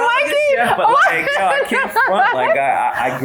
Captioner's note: laughs